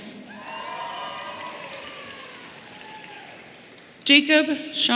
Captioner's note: audience cheering